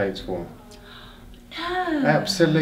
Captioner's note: gasps